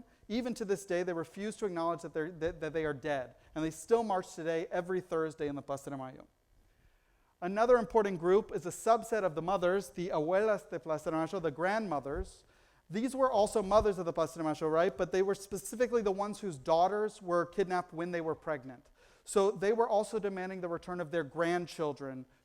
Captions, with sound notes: Even to this day, they refuse to acknowledge that they are dead, and they still march today, every Thursday on the Plaza De Mayo. Another important group is a subset of the mothers, the [foreign language], the grandmothers. These were also mothers of the Plaza De Mayo, right, but they were specifically the ones whose daughters were kidnapped when they were pregnant. So they were also demanding the return of their grandchildren,